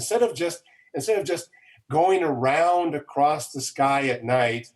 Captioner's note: none